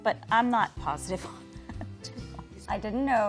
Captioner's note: laughs